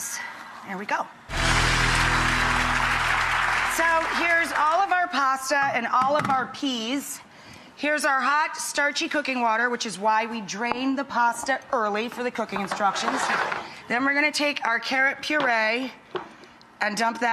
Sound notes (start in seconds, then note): 1.3 audience clapping